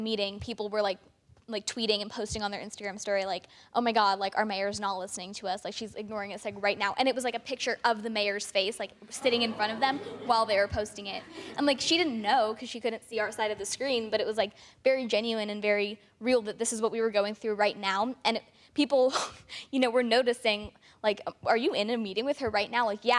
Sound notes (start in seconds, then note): 11.3 audience gasps